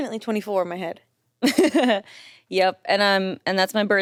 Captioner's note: chuckles